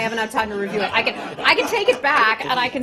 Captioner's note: laughter